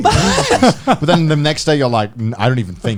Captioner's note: laughing